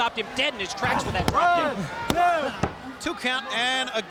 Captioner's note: hand pounding